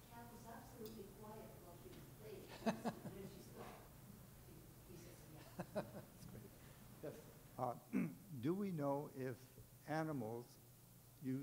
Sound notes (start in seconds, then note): 2.9 chuckling